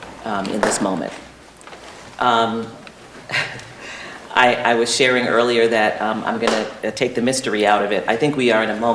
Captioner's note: laughter